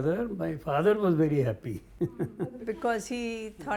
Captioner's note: laughs